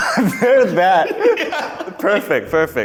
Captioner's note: laughing